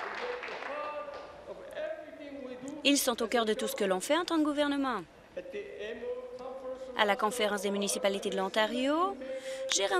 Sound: applause

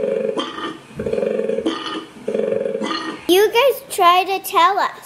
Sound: bellowing sounds

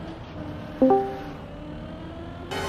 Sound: discord join sfx

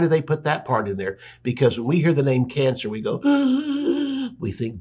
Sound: gasps

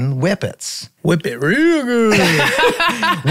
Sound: all laughing

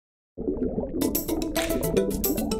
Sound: bubbling sound; upbeat music

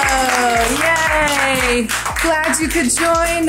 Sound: clapping

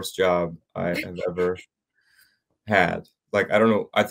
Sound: giggling

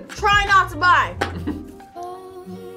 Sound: laughs

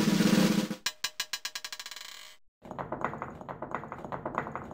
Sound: drum roll; marble rolling

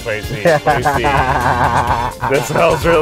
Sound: laughing

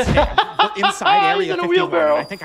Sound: laughs

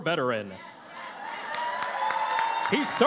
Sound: cheering and Applause

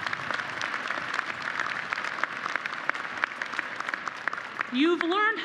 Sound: applause

